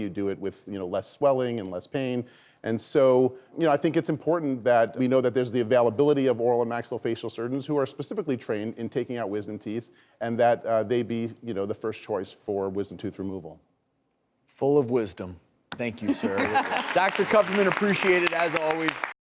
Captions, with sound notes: you do it with less swelling and less pain. And so I think it's important that we know there's the availability of oral and maxillofacial surgeons who are specifically trained in taking out wisdom teeth and that they be the first choice for wisdom tooth removal. Full of wisdom. Thank you sir. (audience clapping) Dr. Kupferman , appreciate it as always.